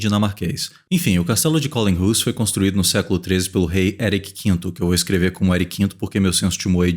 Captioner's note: in portuguese